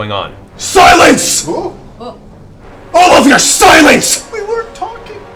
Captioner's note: shouts